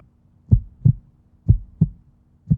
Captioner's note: heartbeating